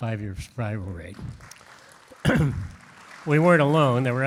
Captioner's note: audience claps; clears throat